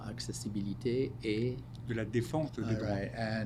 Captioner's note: speaking French